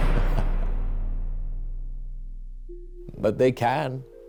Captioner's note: Walter chuckles